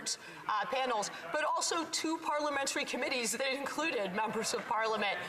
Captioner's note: none